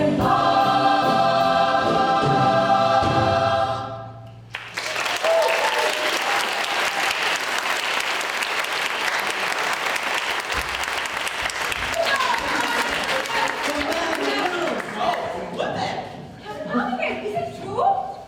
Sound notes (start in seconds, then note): 4.5 applause